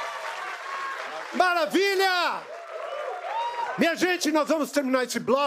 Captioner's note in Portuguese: aplausos